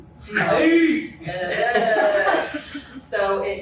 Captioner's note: laughter